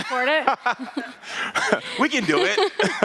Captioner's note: Kuramo laughs